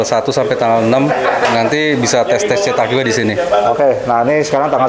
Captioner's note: distant chattering; laughing; distant chattering